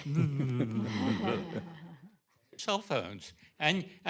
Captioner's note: laughter